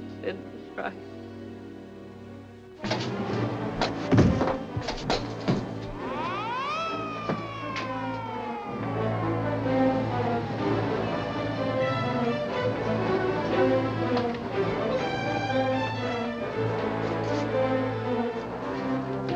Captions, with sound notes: Sid was right. (Suspenseful music) (Sheila thudding) (Gun clanking) (Sirens blaring) (Suspenseful music)